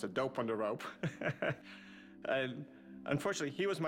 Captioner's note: laughs